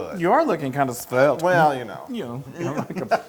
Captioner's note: laugh